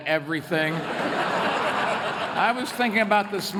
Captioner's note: laughter